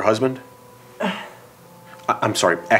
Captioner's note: sighs